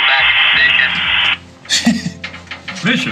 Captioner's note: radio static; laughs